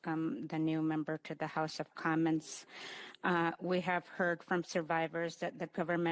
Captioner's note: speaking Indigenous Language